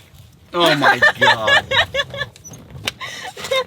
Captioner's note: laughs